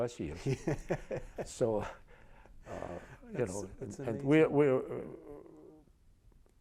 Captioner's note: laughs